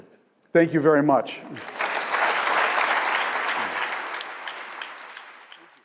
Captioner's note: applause